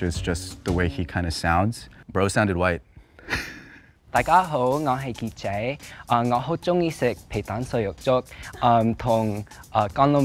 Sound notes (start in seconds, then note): 3.2 laughing; 4.7 speaking foreign language